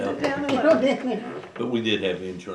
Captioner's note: laughter